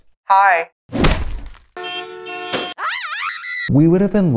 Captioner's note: hammer crashing; car honking; woman screaming